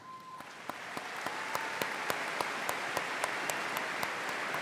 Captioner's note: audience applauding